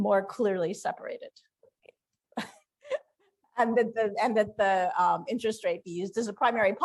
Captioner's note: laughter